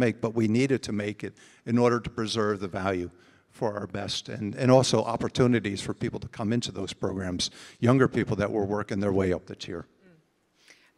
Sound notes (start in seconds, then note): none